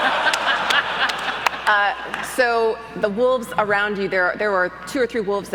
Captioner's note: crowd laughs